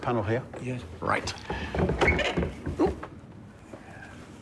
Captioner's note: wood clattering